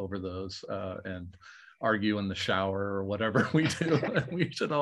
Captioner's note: laughing